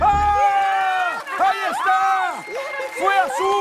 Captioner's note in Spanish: Gritos